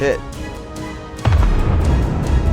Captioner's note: boom